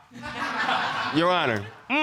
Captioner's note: audience laughs